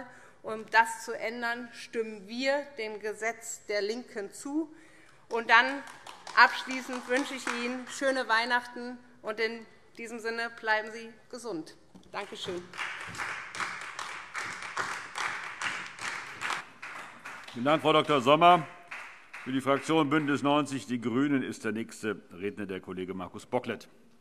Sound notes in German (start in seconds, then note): 5.6 Beifall DIE LINKE; 14.4 Vereinzelter Beifall SPD und DIE LINKE